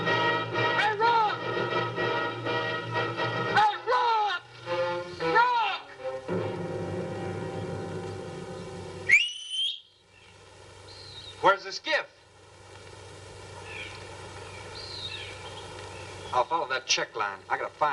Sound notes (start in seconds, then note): 9.0 whistles